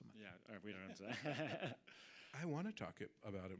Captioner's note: audience laughing